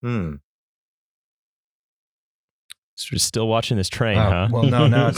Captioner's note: beat